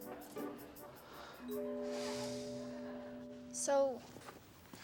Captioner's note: Billy sighs